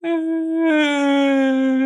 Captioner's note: starts crying